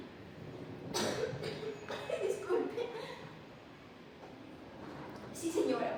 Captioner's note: cough